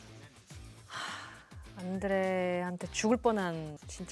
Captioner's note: sigh